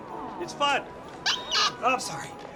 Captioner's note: squeaks